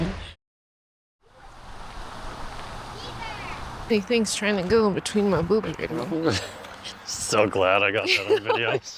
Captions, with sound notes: [wind blowing] Big things trying to go in between my boob and my home. So glad I got that on video.